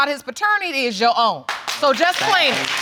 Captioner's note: audience clapping